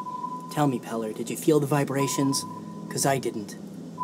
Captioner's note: none